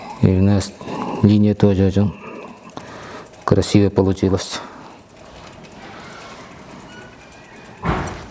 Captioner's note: snorts